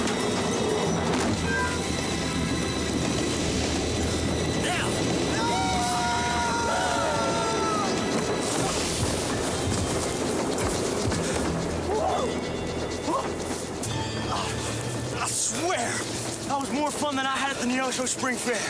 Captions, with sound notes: (suspenseful music) (train chugging) - Now! (both wailing) I swear! That was more fun than I had at the Neosho Spring Fair.